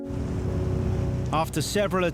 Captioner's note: boat engine revving